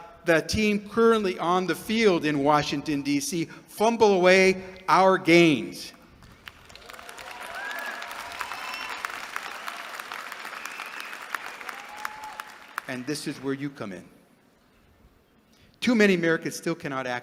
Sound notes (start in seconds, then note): 6.2 applause